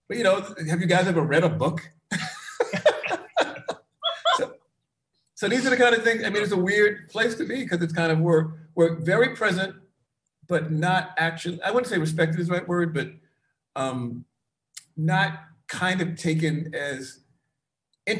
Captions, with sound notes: But have you guys ever read a book? (all laughs) So, these are the kind of things. I mean, it's a weird place to be because it's kind of we're very present but not actually, I wouldn't say respect to is right word but not kind of taken as intimately into people's lives